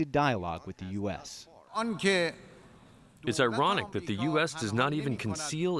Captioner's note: through translator